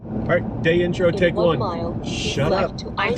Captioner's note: GPS instructing